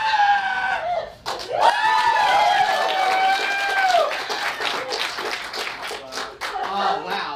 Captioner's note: audience cheers